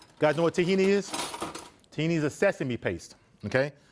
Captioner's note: knives clatter